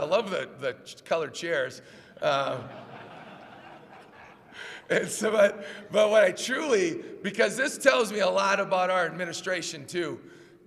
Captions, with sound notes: I love the colored chairs. [LAUGHS] Because this tells me a lot about our administration, too.